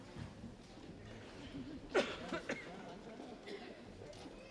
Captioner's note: audience chattering